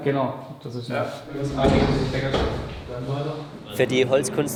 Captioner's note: joyful, athletic chatter